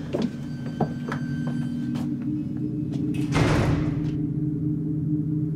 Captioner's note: door creaks and slams; dark instrumental music